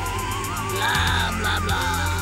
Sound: groaning

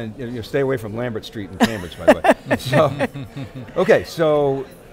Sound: laughing

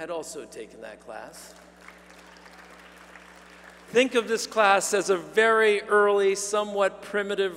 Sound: applause

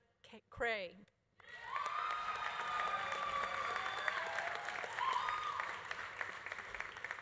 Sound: audience applauding; audience cheering

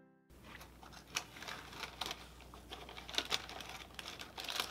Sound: crunching

